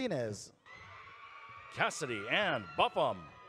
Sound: audience cheering

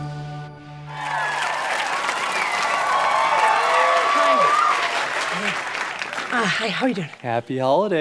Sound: audience applause

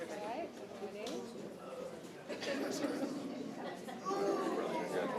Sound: indistinct conversation

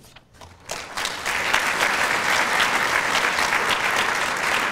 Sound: applause

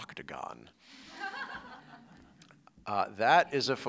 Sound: laughter

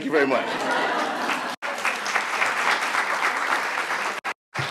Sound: audience applauds

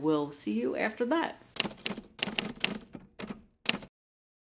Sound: typewriter

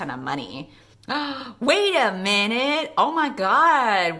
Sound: gasp

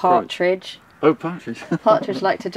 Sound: laughs

